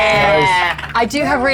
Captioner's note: players cheering